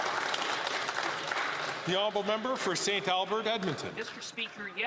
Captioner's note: some Applause